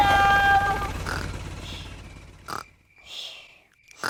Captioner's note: baby alexander snoring